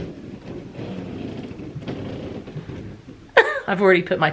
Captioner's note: bed squeaking